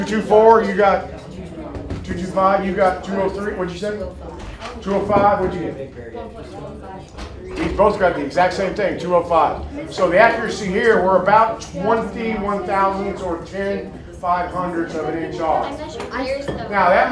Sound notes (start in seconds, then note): 6.5 student faintly speaking